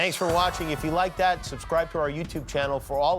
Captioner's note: cheers and applause